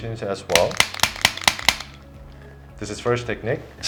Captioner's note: activator clicks